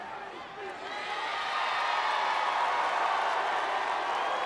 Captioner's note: cheers and boos